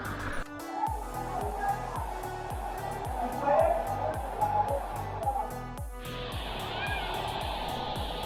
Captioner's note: muffled echoes and water